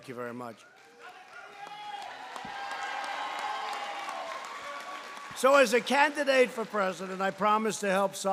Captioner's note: applause